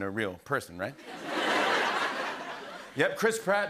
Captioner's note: laughter